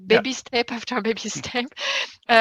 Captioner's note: laughing